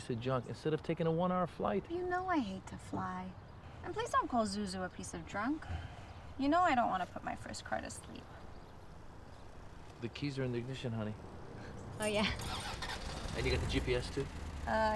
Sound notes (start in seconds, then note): 12.0 starts car